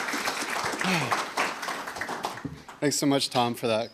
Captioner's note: sighs